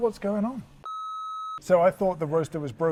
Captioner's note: a beep